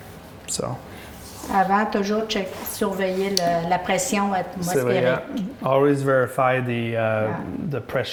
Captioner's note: French